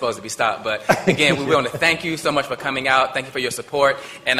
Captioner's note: laughter